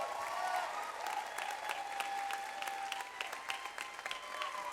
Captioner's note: audience applauds